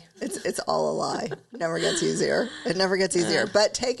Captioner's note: chuckles